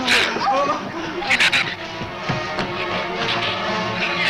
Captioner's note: shrew snarls